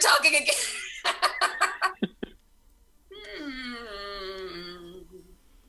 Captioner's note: laughs